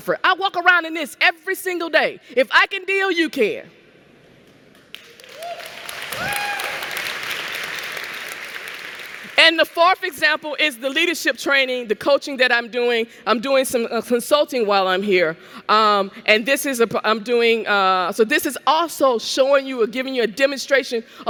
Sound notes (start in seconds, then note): 4.9 cheering and Applause